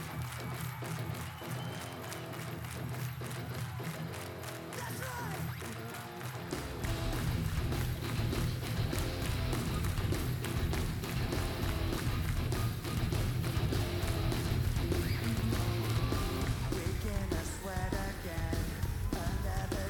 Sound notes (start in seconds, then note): 3.0 applause